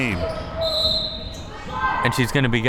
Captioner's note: whistle